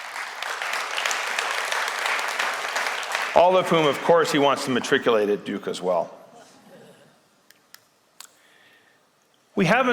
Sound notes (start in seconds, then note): 0.0 applause; 7.8 laughter